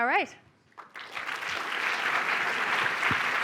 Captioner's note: applause